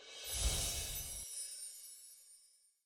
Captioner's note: whooshing air